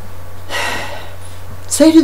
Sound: sigh

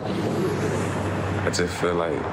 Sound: traffic roaring

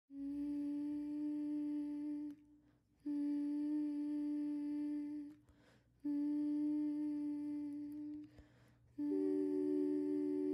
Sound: humming

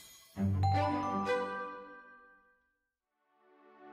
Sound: chiming

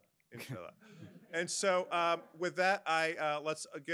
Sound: audience members laugh

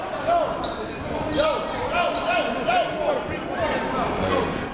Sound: crowd talking

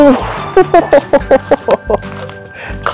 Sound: laughs

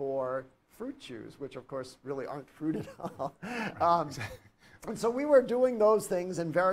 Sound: chuckles

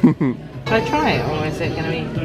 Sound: laughing

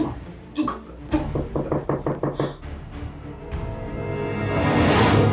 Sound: doors banging loudly

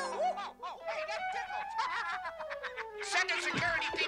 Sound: laughs

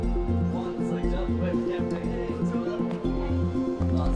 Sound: indistinct chatter

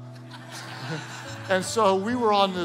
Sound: congregation laughing

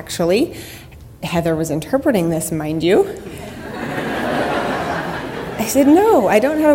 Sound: audience laughter

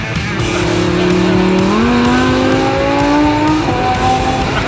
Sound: engine revs

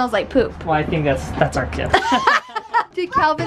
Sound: laughs

